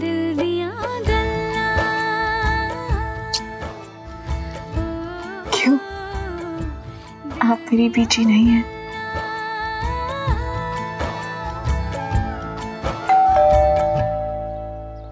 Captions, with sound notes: Why? Aren't you my grandma? [doorbell rings]